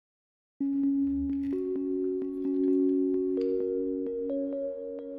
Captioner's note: gentle chimes